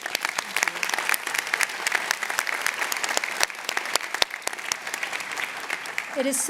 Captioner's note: applause